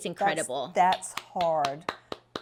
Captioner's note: clapping